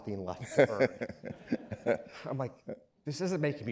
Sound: laughing

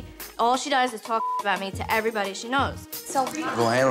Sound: beep

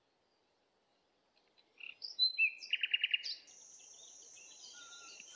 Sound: birds continue chirping

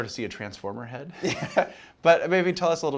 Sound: laughs

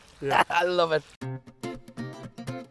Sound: chuckles; upbeat guitar music

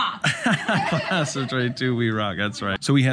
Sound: laughing

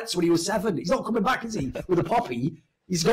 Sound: laughs

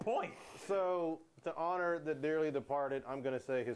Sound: none

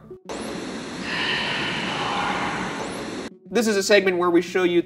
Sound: disembodied Voice

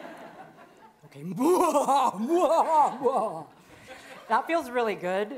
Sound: maniacally laughing

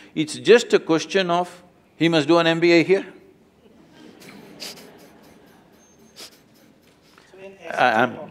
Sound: laughter

